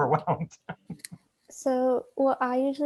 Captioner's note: laughs